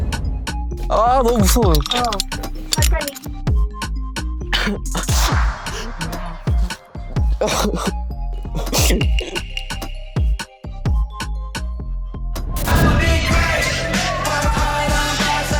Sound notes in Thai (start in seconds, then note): 4.9 ร้องไห้ออกมา